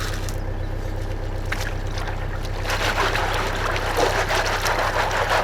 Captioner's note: birds singing